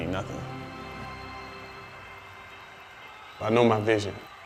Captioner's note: cheers